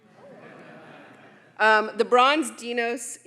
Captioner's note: audience laughing